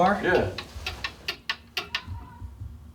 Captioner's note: ticking